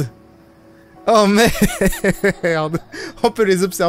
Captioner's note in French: En riant